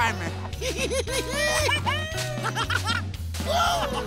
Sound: laughing

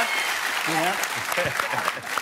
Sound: applause

